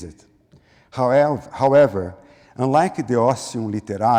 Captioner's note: foreign language